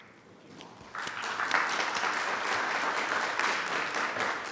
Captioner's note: audience applauding